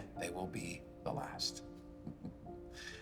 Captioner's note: he chuckles